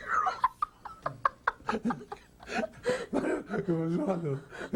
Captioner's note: laughing